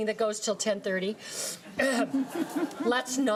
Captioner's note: laughing